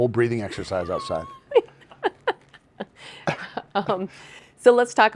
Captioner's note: laughing